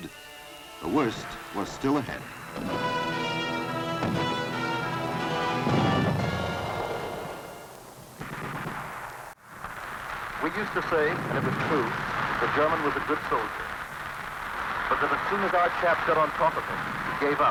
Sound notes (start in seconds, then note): 7.3 explosions; 8.2 rapid gun fire